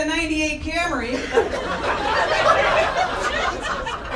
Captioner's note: audience laughing